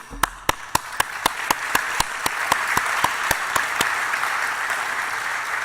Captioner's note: applause